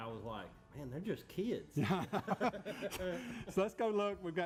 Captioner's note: both laugh